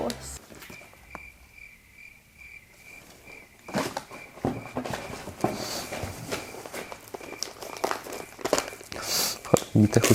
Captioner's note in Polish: słychać świerszcze